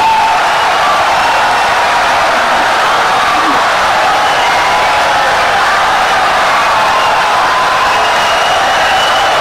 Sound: wild applause and cheering for 17 seconds

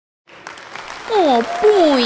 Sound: clapping

